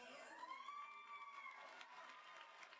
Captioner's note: applause